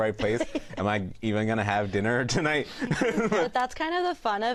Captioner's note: laughs